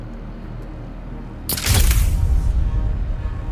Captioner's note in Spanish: construcción de música tensa; clics del obturador de la cámara